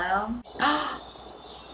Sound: gasps

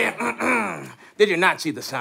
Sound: clears throat

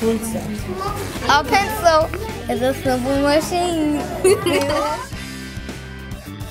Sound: giggling

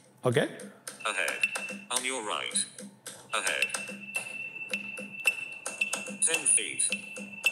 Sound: NaviLens wayfinding sounds

